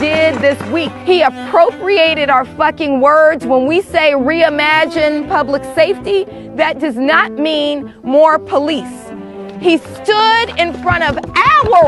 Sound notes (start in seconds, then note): 4.1 footsteps approaching; 10.7 drum vibrating